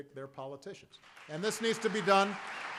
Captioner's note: applause